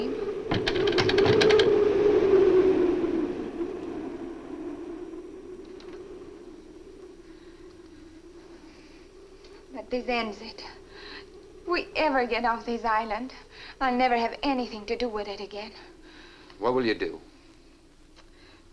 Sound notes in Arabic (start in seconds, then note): 0.5 صوت خشخشة مصاريع النوافذ; 9.6 آن تتحدث السويدية